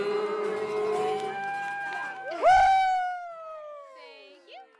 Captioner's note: all cheering